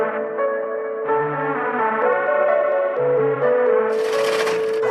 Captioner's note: applause